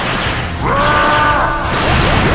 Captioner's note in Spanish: Grita